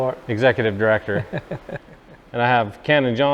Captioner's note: laughs